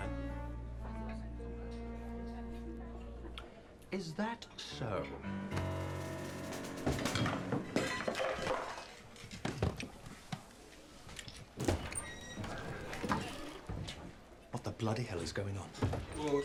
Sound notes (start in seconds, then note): 4.7 playful music; 7.5 objects clattering